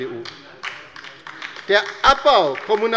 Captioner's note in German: Beifall bei der LINKEN